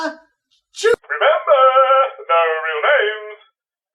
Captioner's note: singsongy